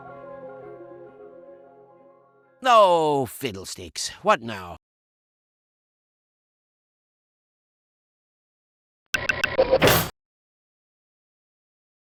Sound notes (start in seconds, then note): 9.1 glitchy audio SFX